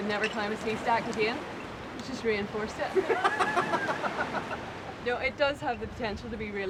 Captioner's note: laughs